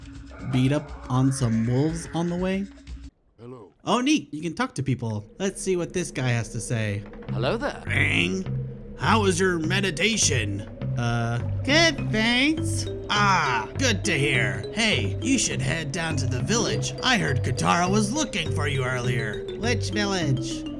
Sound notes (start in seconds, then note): 7.8 in an old man's voice; 10.7 In Aang's voice; 12.9 in old man's voice; 17.0 in old mans' voice; 19.5 In Aang's voice